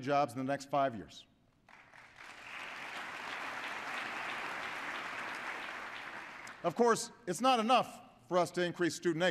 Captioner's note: applause